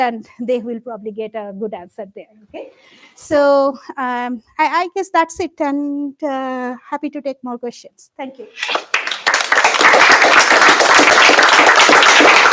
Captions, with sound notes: and they will probably get a good answer there. So I guess that's it, and happy to take more questions. Thank you. [APPLAUSE]